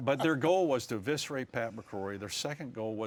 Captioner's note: laughter